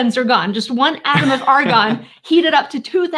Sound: laughing

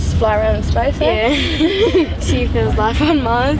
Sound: both laugh

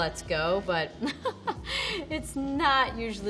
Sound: chuckles

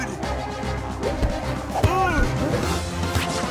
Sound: grunting

